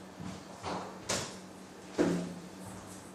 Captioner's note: none